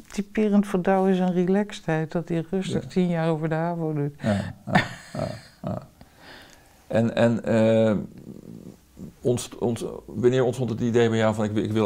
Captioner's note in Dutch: Lacht